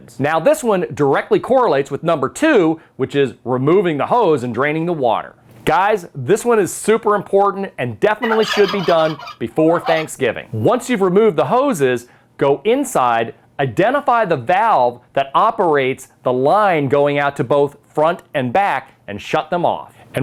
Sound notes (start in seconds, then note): 8.2 turkey gobbles